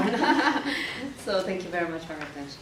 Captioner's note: women laugh